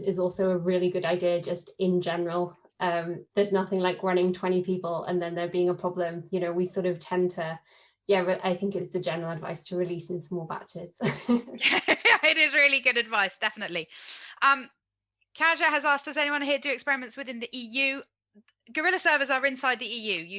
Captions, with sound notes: is also a really good idea just in general, there's nothing like running 20 people. And then there being a problem, we sort of tend to, yeah, I think it's the general advice to release in small batches. (laughs) - It is really good advice definitely. Caja has asked does anyone here do experiments within the EU? Gorilla servers inside the EU,